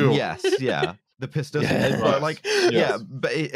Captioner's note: laughs